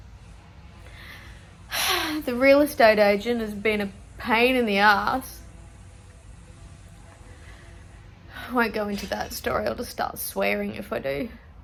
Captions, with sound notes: [sighs heavily] The real estate agent has been a pain in the arse. I won't go into that story. I'll just start swearing if I do.